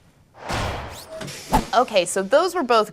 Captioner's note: whoosh